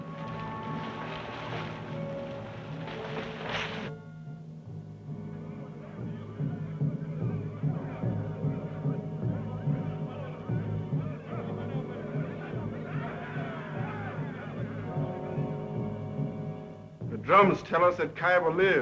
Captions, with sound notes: (natives chattering) - The drums tell us that Kyba lives,